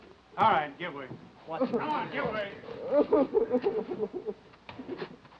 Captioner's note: Danny sobbing